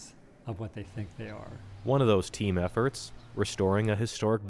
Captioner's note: voice-over